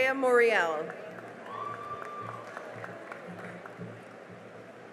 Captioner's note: cheering and applause